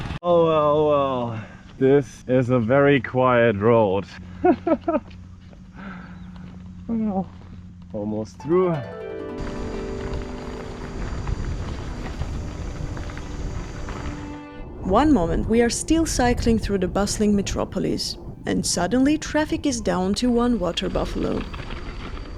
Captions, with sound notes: Oh well well This is a very quiet road… *chuckling* Almost through… One moment we’re still cycling through the bustling metropolis, and suddenly traffic is down to one water buffalo.